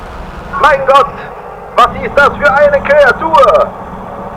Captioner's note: VON FRIES shouting in German again